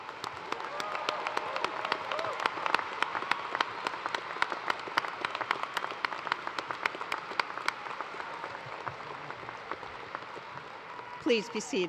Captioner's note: cheers and applause